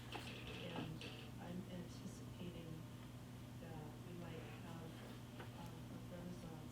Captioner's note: faintly speaking